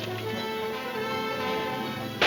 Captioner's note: gun firing